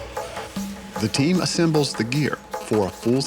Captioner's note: voiceover